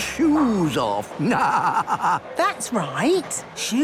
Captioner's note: laughing